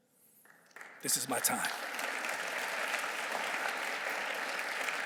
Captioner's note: audience clapping